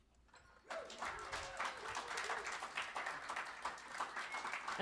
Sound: cheers and applause

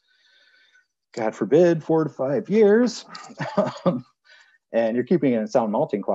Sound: chuckles

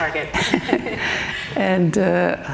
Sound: both laughing

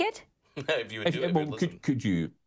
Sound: chuckles

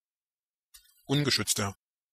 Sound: fast Pronunciation

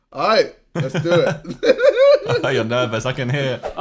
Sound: laughing

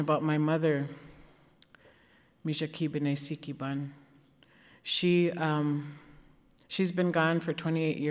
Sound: speaking Ojibwe

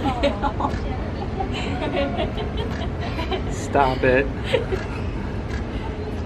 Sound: oohs and ahhs

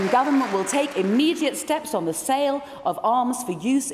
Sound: applause

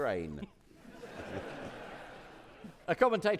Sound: audience laughing

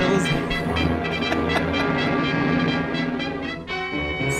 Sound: laughs

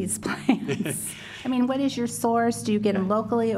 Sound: laughter

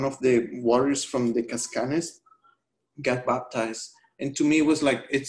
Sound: speaking spanish

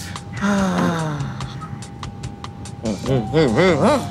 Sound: Jordan exhaling; quirky music

